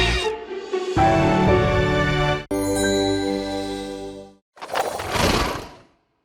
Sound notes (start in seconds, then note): 0.2 upbeat jingle; 2.6 chimes